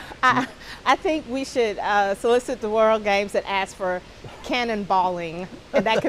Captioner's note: laughter